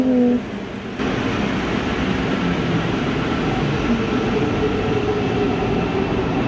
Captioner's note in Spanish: sonido ambiental de los trenes de Metro de Santiago